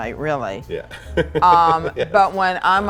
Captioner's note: laughs